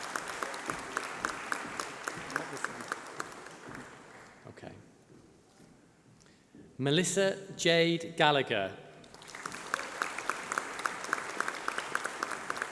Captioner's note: applause